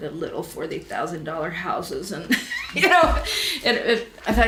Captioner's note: laughs